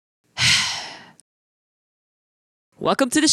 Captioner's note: sigh